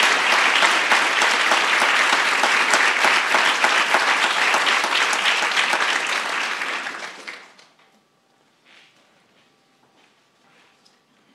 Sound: applause

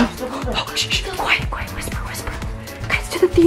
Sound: shushing

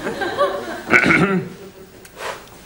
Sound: clears throat

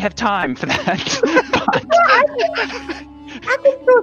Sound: both laughing

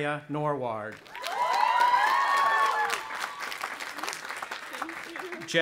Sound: audience applauding and cheering

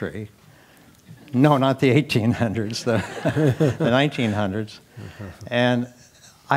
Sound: laugh

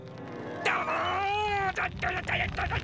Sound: grunting

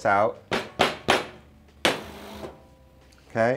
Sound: knocking

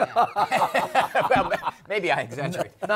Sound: laughter

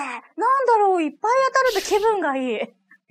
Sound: laughs

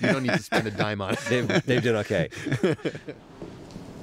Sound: laughter

